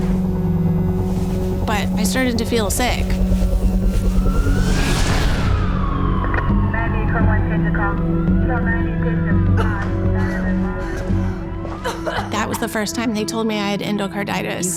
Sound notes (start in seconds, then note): 0.1 uneasy music continues; 3.3 sirens wailing; 6.1 radio chatter; 9.5 person coughing; 9.8 uneasy music continues